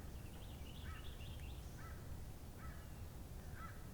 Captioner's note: birds chirping